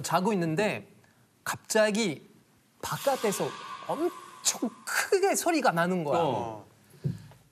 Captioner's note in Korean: 밖에서 들려온 의문의 굉음